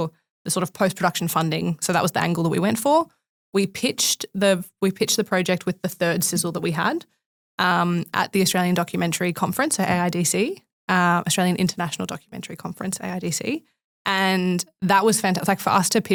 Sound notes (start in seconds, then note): none